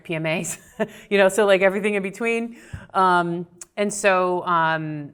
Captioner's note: laughs